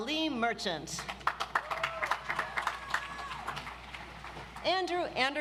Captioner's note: audience applauds